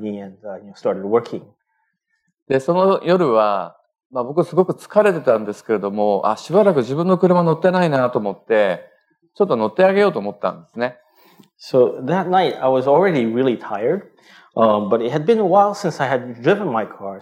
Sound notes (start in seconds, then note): 6.9 speaking japanese